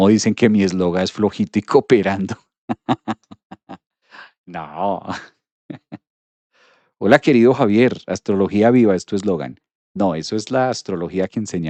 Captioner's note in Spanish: risas